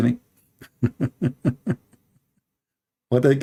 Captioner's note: Ketawa